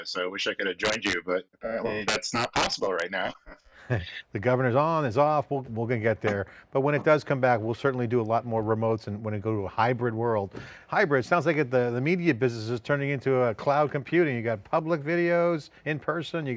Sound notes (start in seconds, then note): 3.1 chuckles